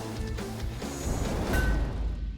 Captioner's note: clang